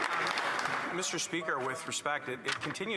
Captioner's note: applause